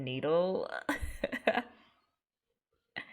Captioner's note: laughs